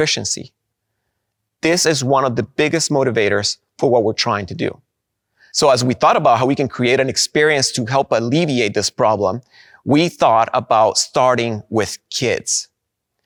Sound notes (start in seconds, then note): none